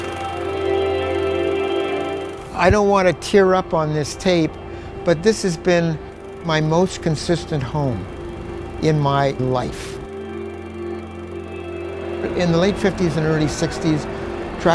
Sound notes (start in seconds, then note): 0.0 inspiring music; 10.0 film running